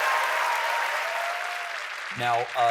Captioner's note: cheers and applause